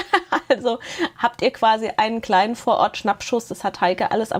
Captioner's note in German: Gelächter